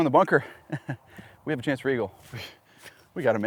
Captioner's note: laughs